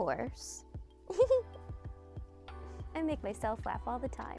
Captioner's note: giggles